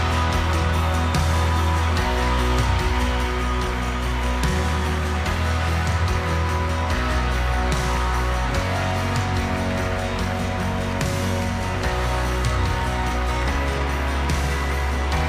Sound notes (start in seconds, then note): 2.0 cheering and applause; 2.0 soft music playing